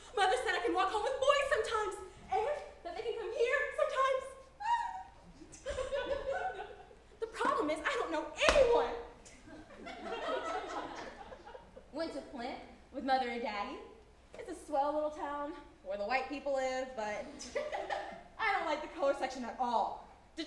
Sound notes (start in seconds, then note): 4.6 squeals; 5.5 audience chuckles; 9.6 audience chuckles